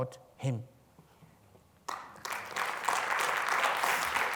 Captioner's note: applause